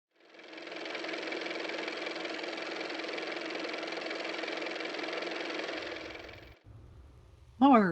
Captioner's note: car motor